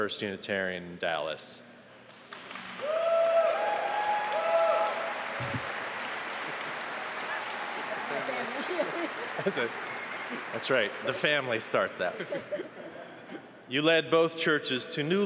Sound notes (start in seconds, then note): 12.0 applause